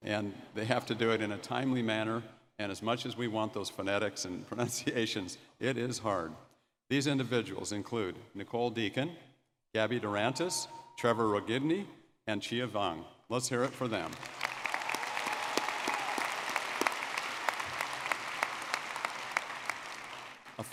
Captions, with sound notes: and they have to do it in a timely manner. And as much as we want those phonetics and pronunciations, it is hard. These individuals include Nicole Deacon, Gabby Dorantes, Trevor Rogneby, and Chia Vang. Let's hear it for them. (audience clapping and cheering)